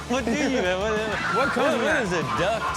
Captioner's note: overlapping chatter; birds squawking